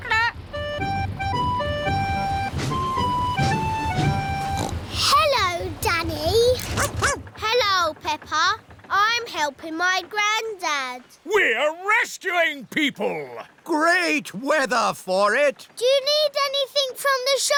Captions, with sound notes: -(SNORTS) Hello, Danny. -(BARKS) Hello, Peppa. -I'm helping my granddad. -We're rescuing people! Great weather for it! Do you need anything from the shops?